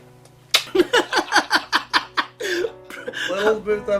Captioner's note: laughing